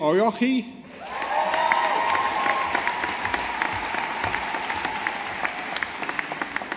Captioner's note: audience applauding